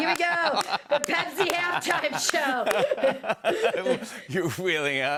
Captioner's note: both laugh